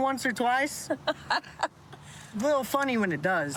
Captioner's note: laughs